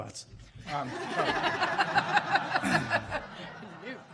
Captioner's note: laughing